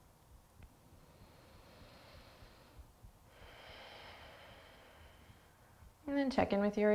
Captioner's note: inhaling and exhaling